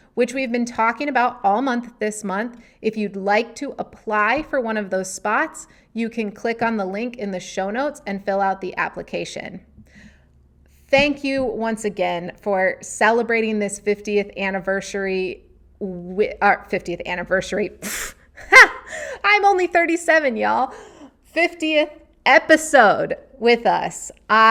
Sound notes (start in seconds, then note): 18.4 laughing